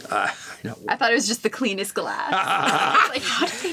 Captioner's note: laughs